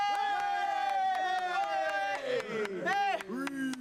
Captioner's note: villagers cheer